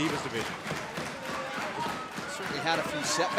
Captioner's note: crowd cheering